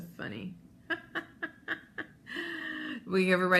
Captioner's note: laughs